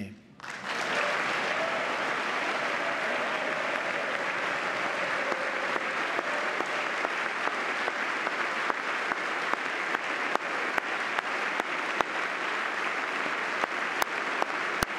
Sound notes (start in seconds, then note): 4.1 applause